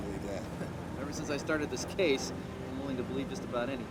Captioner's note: chuckles